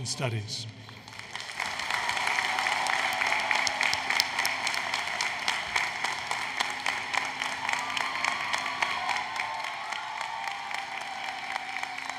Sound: applause, Cheering

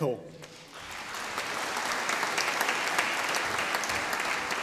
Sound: audience applauding

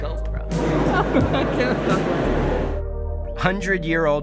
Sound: laughing

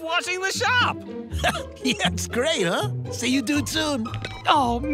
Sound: chuckles

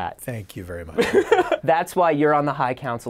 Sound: laughing

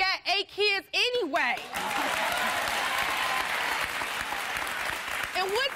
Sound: audience applauding

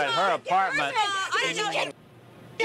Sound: yelling; muted

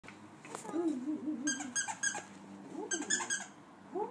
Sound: squeak

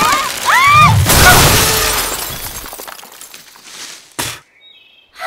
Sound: cracking; both girls screaming; spits

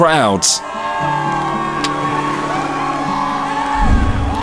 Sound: crowd cheers

